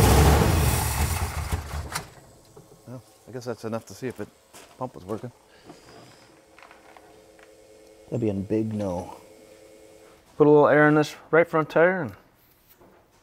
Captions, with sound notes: (engine quits) - Well, I guess that's enough to see if the pump was working. That'd be a big no. Put a little air in this right front tire and